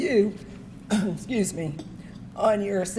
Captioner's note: coughs